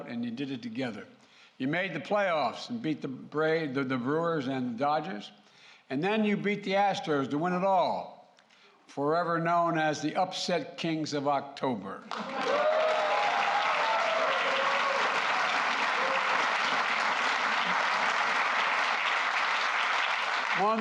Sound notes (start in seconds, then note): 17.0 applause